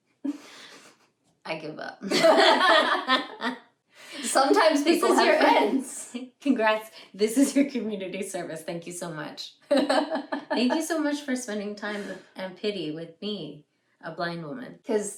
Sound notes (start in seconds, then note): 2.0 both laugh